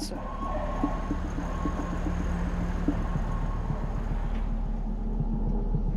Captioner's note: sirens sounding